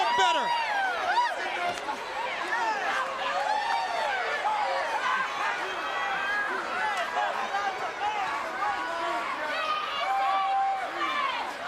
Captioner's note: crowd chatter